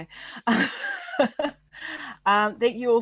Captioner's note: laughs loudly